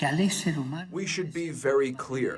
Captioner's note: through translator